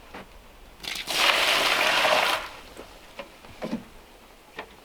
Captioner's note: water pouring